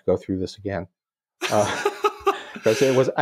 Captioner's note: chuckle